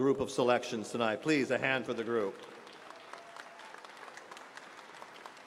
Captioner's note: applause